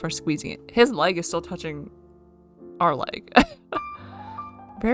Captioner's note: laughs